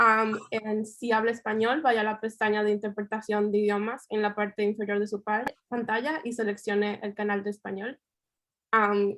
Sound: Spanish

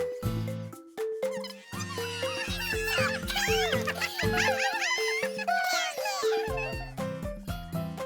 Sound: laughing

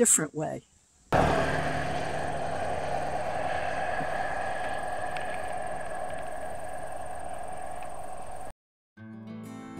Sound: engine sound

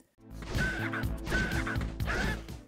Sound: DNAlien shrieks

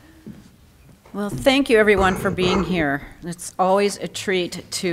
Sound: audience person coughs

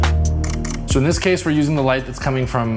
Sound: camera clicks

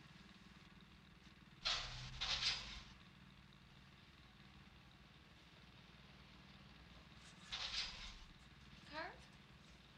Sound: rustling

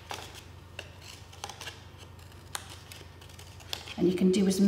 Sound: paper snipping

